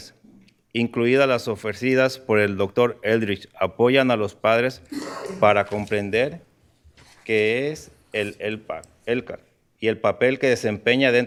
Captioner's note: speaking in spanish